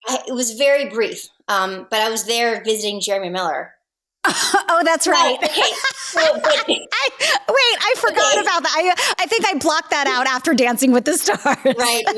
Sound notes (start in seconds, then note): 4.3 laughing; 4.3 laughs